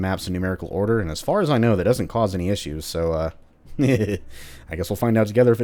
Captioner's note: chuckles